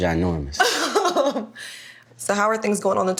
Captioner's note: laughing